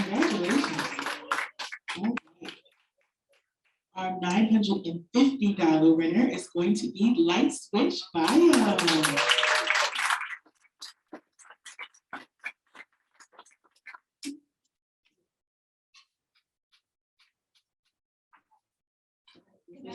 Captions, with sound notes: (audience applauding) congratulations Our $950 winner is going to be Light Switch Bio. (audience applauding)